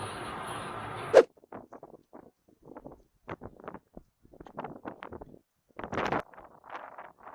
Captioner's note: warning: Sound of wind 💨 😵